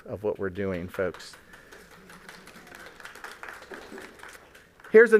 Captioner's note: applause